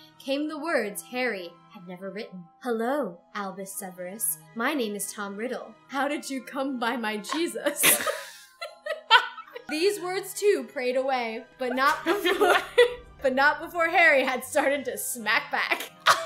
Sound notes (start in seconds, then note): 7.7 both laugh